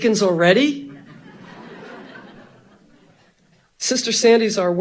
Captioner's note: audience laughing